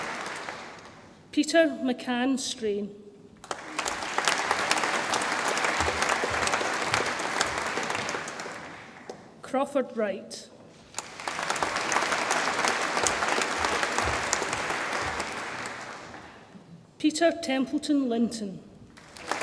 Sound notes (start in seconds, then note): 3.4 audience applauds; 10.9 audience applauds; 18.9 audience applauds